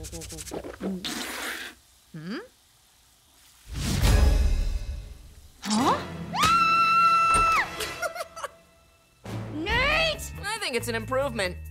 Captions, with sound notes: [spitting] Huh? [screaming] [laughing] Nate! I think it's an improvement.